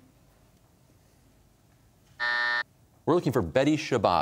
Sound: buzzer

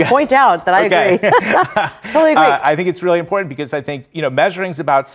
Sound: laugh

